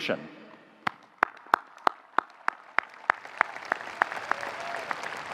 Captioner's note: audience applauding